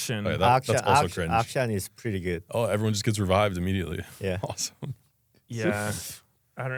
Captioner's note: laughs